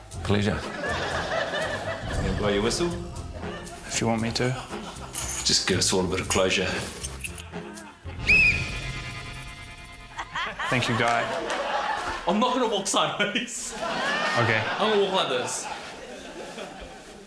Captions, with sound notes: - Pleasure. - You wanna blow your whistle? - If you want me to. - Just give us all a bit of closure. - (BLOWS WHISTLE) Thank you, Guy. - I'm not going to walk sideways. (CHUCKLES) - OK. - I'm going to walk like this.